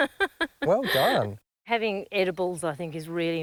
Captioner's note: laughs